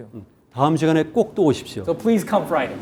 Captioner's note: speaking in Korean